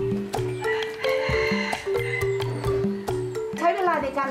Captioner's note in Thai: เสียงไก่ขัน